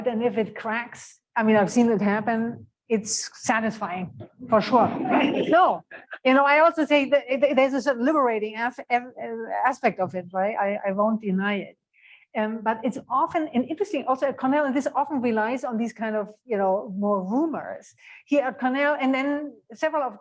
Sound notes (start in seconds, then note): 4.8 laughter